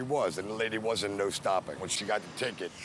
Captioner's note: none